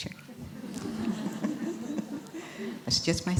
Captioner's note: laughter